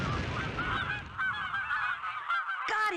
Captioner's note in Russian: карканне птушак